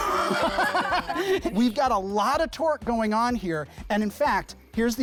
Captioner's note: laughs